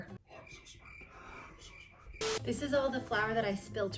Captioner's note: distorted voice; normal voice